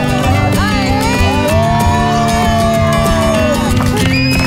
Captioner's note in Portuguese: todos gritam; assobios